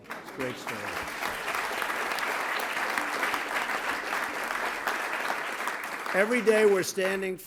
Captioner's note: applause